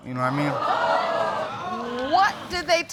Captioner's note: audience exclaiming